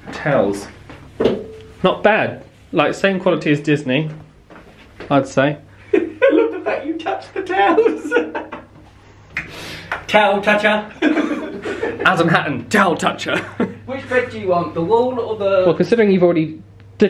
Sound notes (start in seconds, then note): 8.3 laughing